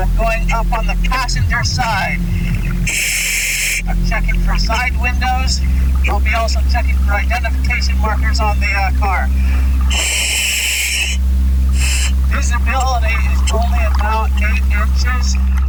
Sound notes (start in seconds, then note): 10.0 oxygen pipe whirling